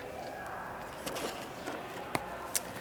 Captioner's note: paper rustling